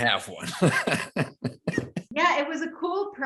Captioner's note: both laughing